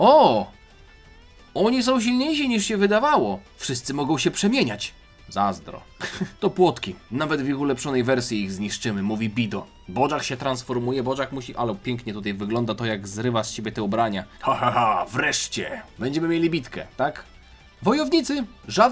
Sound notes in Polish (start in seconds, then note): 6.0 śmiech